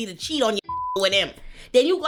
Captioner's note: beep